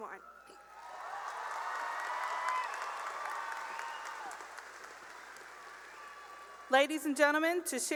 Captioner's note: cheering and applause